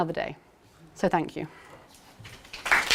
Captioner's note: applause